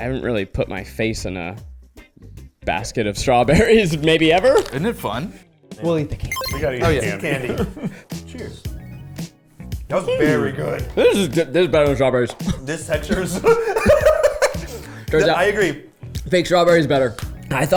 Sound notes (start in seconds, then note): 6.3 text pinging; 9.2 upbeat instrumental music; 13.0 laughing